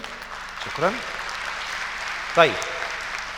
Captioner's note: clapping!